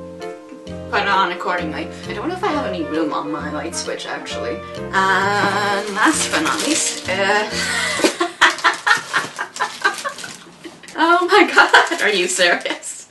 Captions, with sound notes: ...label accordingly.... I don't know if I have any room on my light switch actually... Ah...what else do we got? It's a- *starts laughing at the irony* Oh my god, are you serious?!